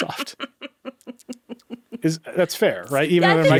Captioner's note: chuckling